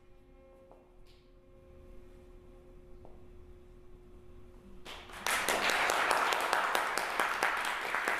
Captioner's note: applause